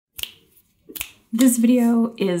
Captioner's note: fingers snapping